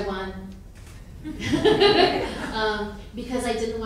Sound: laughing

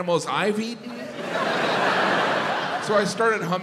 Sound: audience laughs

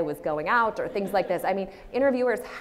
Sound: audience laughs

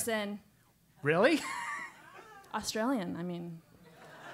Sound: laugh; laugh

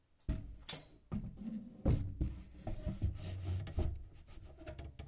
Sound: slight shuffling

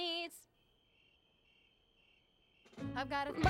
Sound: crickets chirping

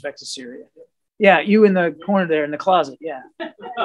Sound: laughter

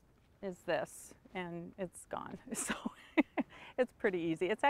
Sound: laughs

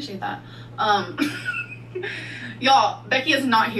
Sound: laughing

